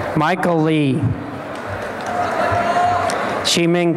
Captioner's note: applause and cheering